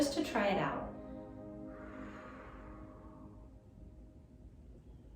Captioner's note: pursed lips breathing